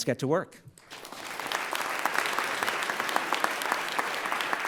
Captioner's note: everyone applauds